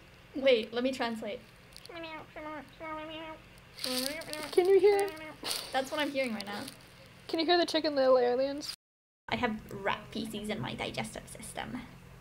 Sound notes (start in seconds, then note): 1.6 alien noises; 3.7 more alien noises; 4.6 laugh